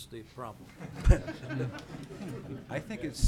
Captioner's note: laughing